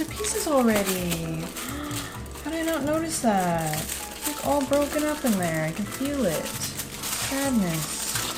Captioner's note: gasp